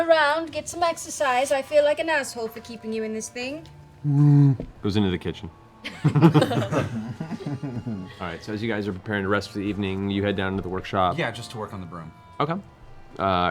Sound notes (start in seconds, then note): 5.4 bear noises